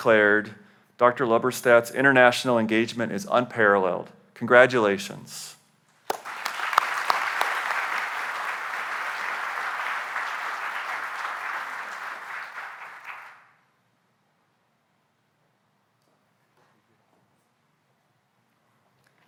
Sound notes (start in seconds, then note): 6.0 applause